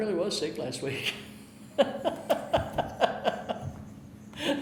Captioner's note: laughing